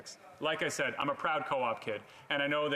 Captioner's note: speaking French